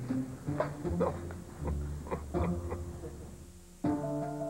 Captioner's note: Il rit